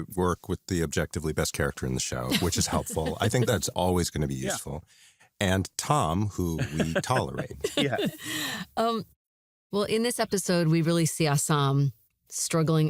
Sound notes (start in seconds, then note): 2.3 laughs; 6.3 laughs